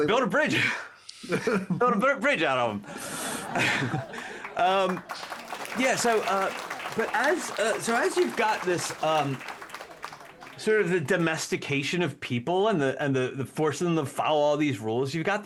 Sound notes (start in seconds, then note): 2.8 laughter